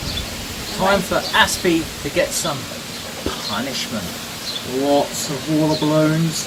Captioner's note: whispers the word punishment